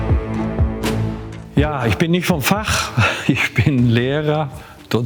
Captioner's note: laughs